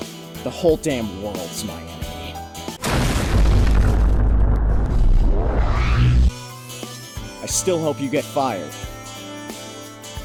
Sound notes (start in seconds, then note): 2.8 wa-boom